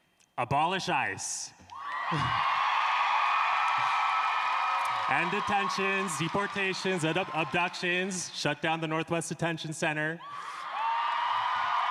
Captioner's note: applause